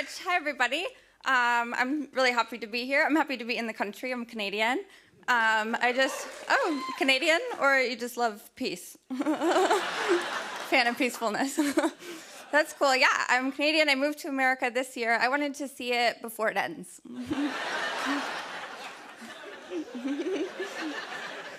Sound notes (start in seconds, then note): 6.2 cheers and applause; 9.1 laughter; 17.1 laughter